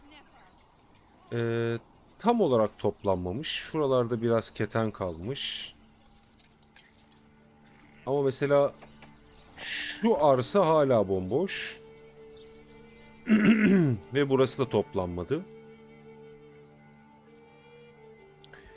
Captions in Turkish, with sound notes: Eee, tam olarak toplanmamış. Şuralarda biraz keten kalmış ama mesela şu arsa hala bomboş [öksürme] ve burası [boğazını temizler] da toplanmadı.